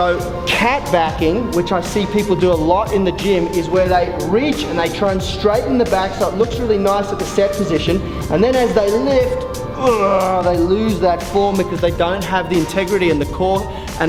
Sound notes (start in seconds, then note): 9.8 grunt